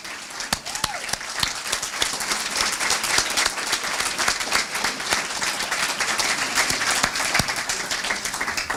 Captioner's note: applause